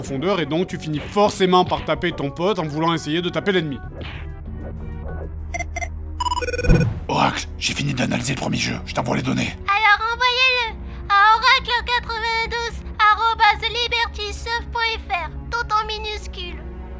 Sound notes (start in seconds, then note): 6.2 electronic Sounds; 9.5 Childish voice